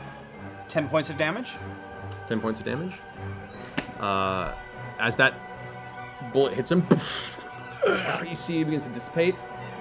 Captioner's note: soft impact